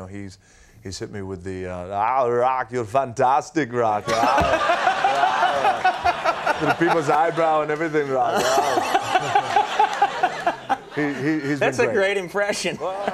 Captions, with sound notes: He's hit me with, "Ah, Rock, you're fantastic, Rock." (The Rock vocalizing) (all laughing) People's eyebrow and everything. (Conan laughing) He, he's been-- That's a great impression.